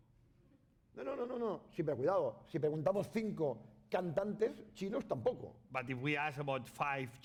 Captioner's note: speaking spanish